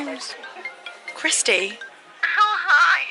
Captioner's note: phone rings